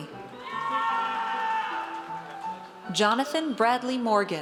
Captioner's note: audience cheers